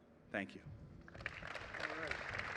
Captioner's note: applause